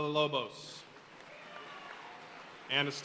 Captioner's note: audience cheering and applauding